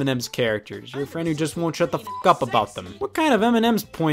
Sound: beep

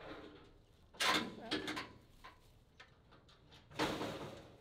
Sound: metal clanking

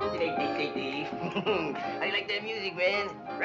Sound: chucking

